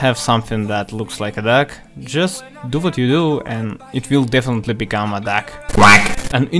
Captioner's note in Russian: кряк